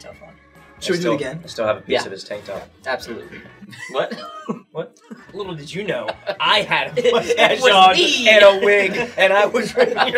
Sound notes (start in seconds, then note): 4.4 laughs; 8.6 all laugh